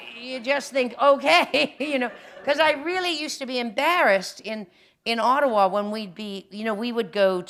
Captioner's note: laughter; chuckle